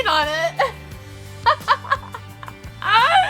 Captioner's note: laughs